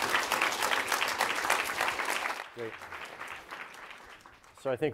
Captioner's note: applause